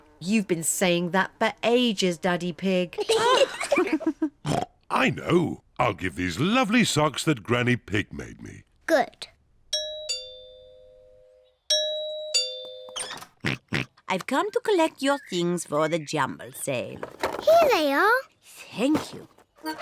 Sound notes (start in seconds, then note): 3.0 kids and mummy pig laugh; 4.5 oinks; 9.7 doorbell rings; 13.4 oinks